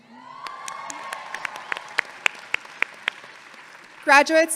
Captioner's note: audience applauding and cheering